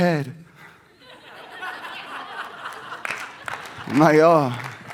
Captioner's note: audience laughs